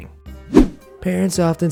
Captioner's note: air whooshing